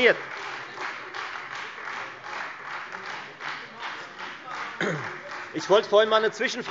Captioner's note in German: Beifall Freie Demokraten